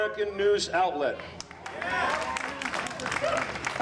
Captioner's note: audience applauding